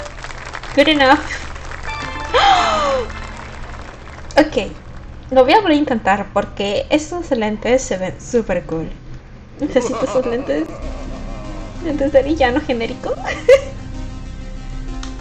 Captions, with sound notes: Good enough [gasps] Ok I'm gonna try again because those glasses look super cool I need those glasses, generic villain glasses [laughs]